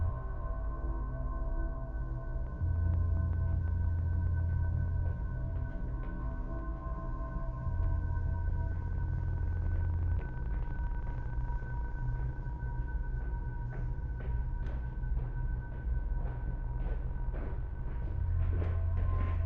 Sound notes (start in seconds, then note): 7.9 footsteps; 7.9 ominous music continuing